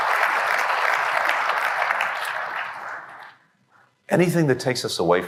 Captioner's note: applause